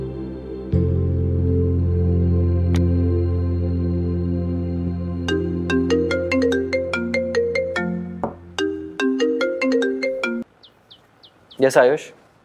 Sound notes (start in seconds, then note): 4.9 mobile ringing